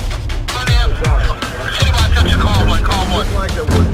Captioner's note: radio speakers